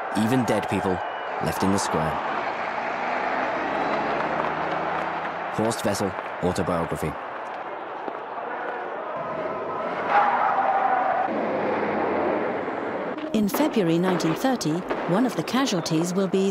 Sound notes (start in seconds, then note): 9.2 engines whirring